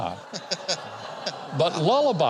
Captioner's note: audience laughs; guest giggles